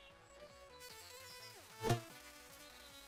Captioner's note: sizzling